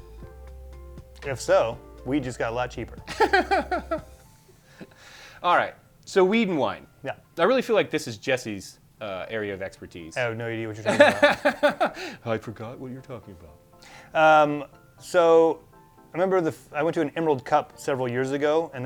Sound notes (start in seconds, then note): 3.0 laughs; 10.8 laughs